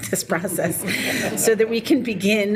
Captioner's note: people laughing